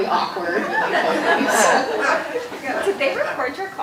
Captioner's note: audience laughing